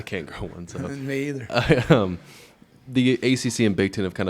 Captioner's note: men chuckle